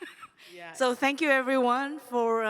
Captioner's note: laughter